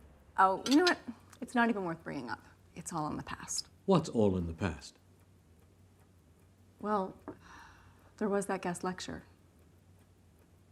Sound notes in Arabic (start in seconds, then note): none